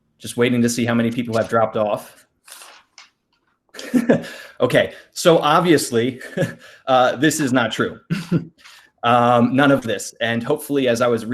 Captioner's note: laughs